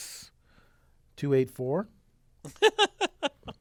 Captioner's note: laugh